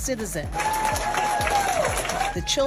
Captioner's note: children cheering